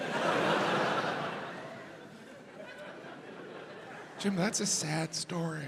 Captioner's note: audience laughs